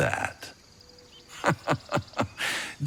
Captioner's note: laughing